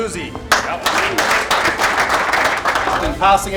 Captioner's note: clapping